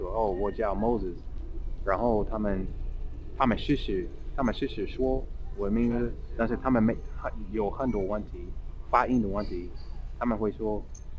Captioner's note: mandarin